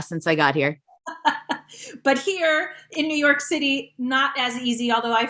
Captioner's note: chuckling